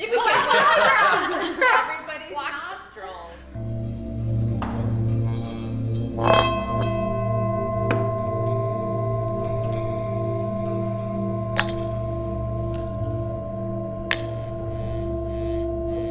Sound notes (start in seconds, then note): 0.0 group laughing; 4.3 metal whirring